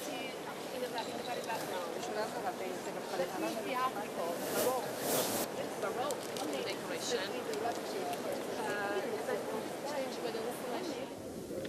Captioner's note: people chatting